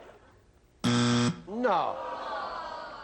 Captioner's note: buzz